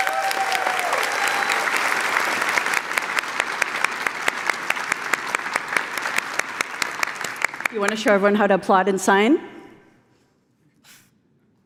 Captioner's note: applause